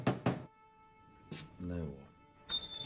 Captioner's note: officer knocking; pensive music